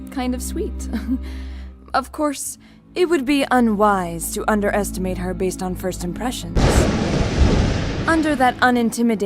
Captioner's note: chuckle; thunder